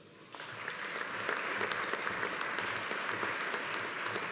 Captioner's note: audience applauding